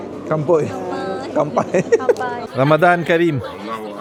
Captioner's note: laugh